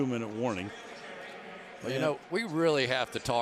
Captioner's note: pa announcement